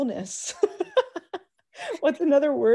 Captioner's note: laughs